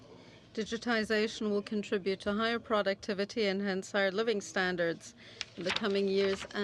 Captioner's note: speaking French